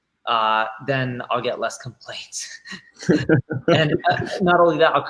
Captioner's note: laughing